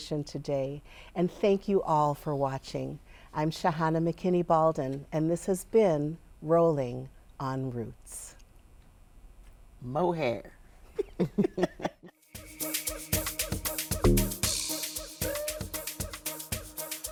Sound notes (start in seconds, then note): 13.7 all laughing; 15.4 upbeat music